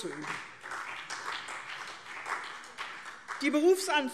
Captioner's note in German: Beifall CDU und vereinzelt BÜNDNIS 90/DIE GRÜNEN